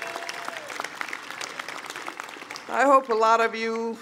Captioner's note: cheering/Applause